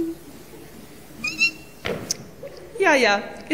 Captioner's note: squeaking